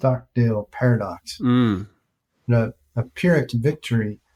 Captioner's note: humming in agreement